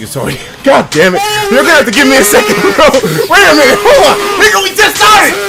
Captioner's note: insane $300 donation earrape